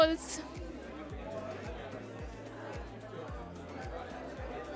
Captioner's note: chatter